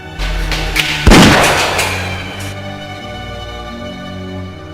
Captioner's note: sound of gunshot